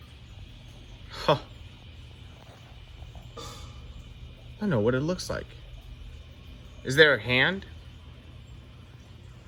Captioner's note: chuckles